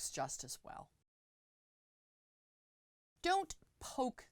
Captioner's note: no Sound Present